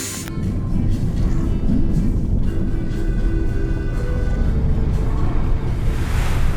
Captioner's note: chill music; water rushing